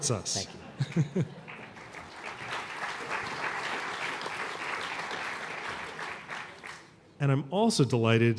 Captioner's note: applause